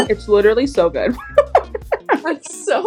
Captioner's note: both laugh